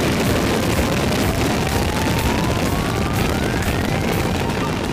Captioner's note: rocket roars